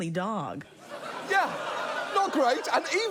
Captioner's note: audience laughs